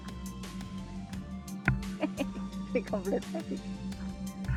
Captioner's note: laughs